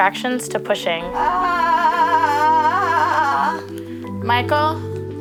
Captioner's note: screaming